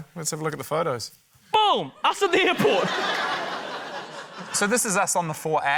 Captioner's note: laughter